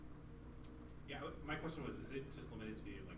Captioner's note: voiceover